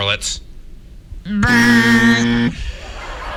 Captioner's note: makes a buzzer noise, definitely not a fail horn